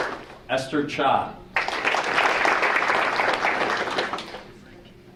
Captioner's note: audience applauding; audience applauding